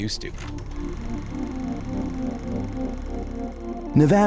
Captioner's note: camera film flicking